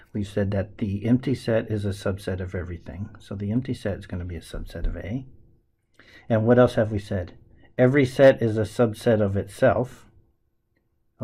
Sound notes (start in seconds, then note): none